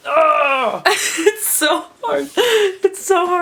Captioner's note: laughs